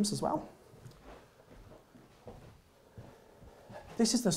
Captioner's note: footsteps thumping